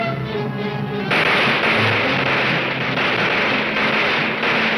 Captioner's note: gunshots banging